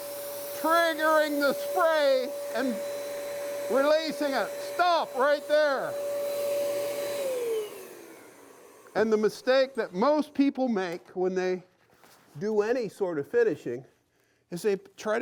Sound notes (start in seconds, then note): 7.9 machine turning off; 9.8 normal voice